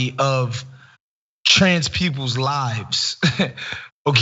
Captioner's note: laugh